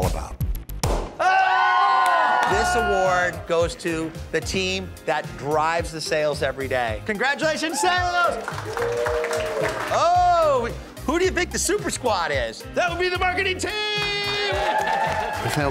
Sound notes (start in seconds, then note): 3.8 crowd applauding; 9.4 crowd cheering